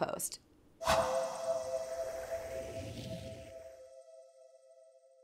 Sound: swoosh

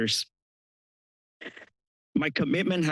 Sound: pause

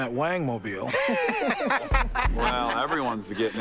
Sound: laughs

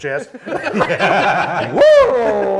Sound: panelists laughing

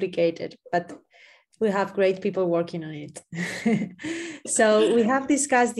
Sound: laughing

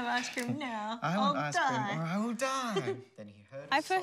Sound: chuckles

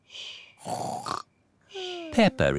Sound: snores

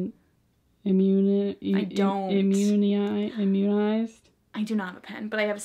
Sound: struggles pronoucing immunized

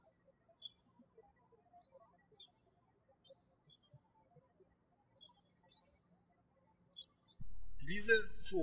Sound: birds chirping

